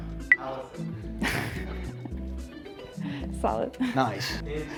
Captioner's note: laughs